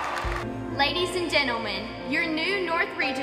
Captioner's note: cheering